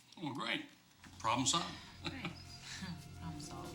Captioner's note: chuckles